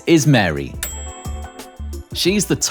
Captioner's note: ding